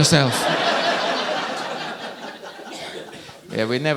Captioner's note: audience laughing